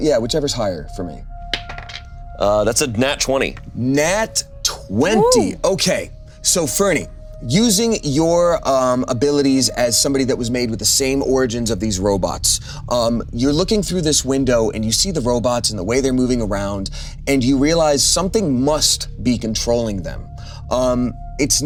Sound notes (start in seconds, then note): 1.6 die rolling